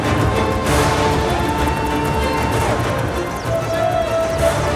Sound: music intensifying; cheering

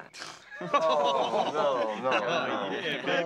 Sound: laughing, Groaning

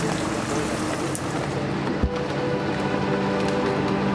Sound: winch motor whirring; sobering music

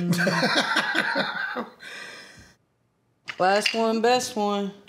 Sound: laughter

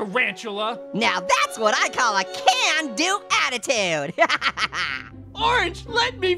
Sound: laughs

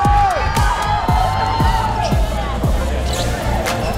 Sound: cheering

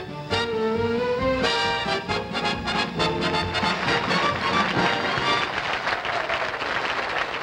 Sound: applause

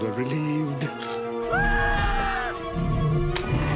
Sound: screaming

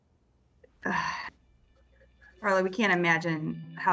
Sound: exhaling

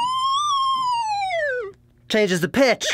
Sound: decreasing pitch

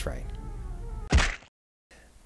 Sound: crunch

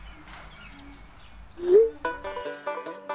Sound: phone chimes

